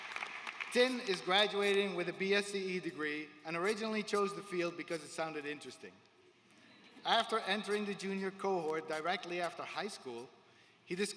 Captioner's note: applause